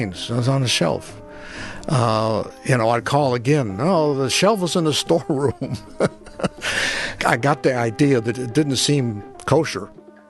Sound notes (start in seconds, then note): 5.4 laughs